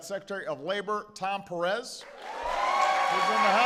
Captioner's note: applause